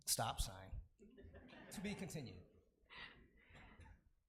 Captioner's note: laughing